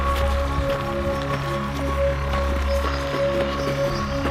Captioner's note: gravel crunching